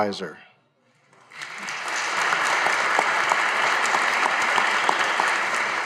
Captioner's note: audience applauding